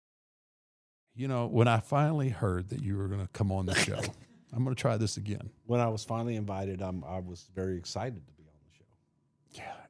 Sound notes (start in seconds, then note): 3.7 laughs